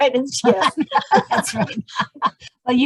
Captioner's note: both laugh